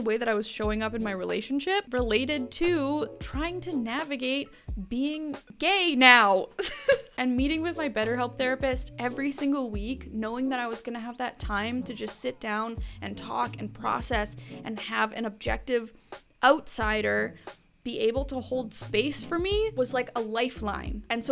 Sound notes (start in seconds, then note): 6.2 laughs